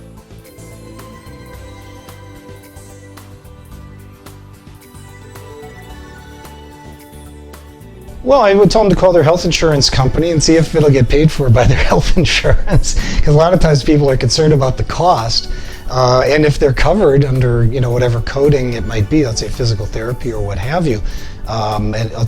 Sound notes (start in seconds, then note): 0.2 upbeat techno music; 11.5 chuckles